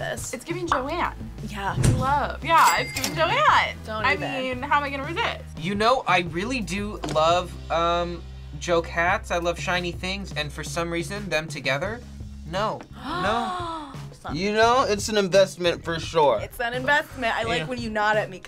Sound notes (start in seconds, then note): 12.9 gasps